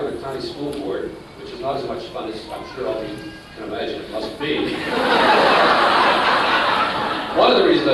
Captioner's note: laughter